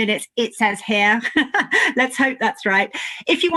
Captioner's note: chuckles